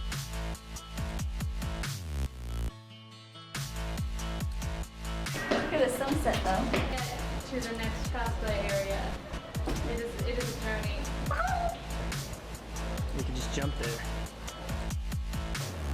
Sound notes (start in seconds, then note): 11.3 squawking returns